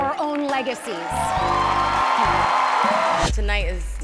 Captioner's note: cheering